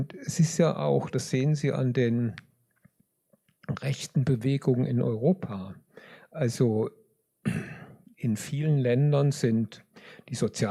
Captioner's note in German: räuspern